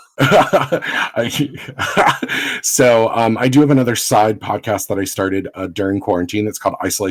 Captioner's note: laughs